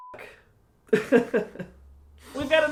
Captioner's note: almost sob-ish chuckles